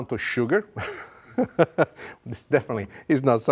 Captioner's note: chuckles